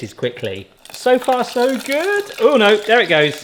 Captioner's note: oil sizzles